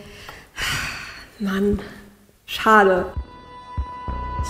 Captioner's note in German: seufzt